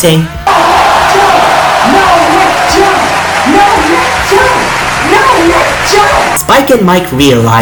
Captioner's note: crowd Cheering